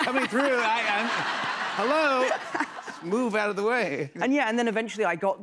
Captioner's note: laughter